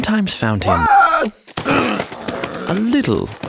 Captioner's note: Thomas yelling; disciples grunting